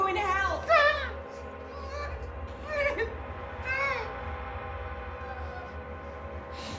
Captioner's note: tense music; Claire mumbling